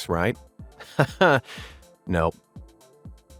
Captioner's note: narrator chuckling